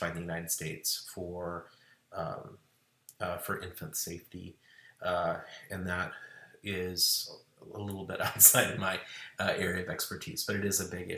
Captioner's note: laughing for emphasis